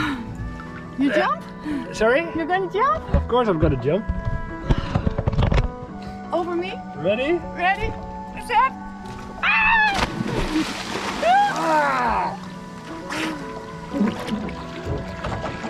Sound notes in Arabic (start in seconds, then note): 9.4 تصرخ